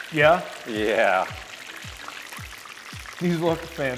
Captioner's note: cooking oil sizzling